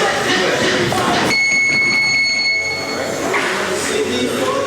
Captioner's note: bell ringing